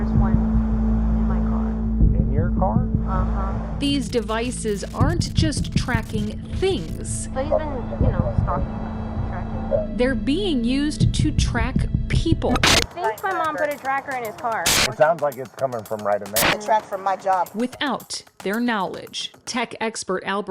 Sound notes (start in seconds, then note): 0.0 static hisses; 12.8 static beeps; 14.5 static hisses; 16.3 static hisses